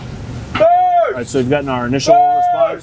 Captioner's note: man shouts